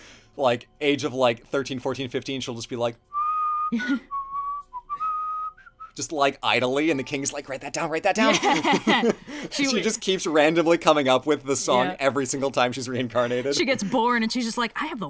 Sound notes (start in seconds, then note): 5.0 laughs; 8.2 laughs